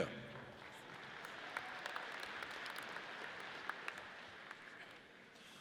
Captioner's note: audience applauds